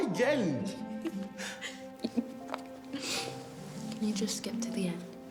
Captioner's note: Dana laughing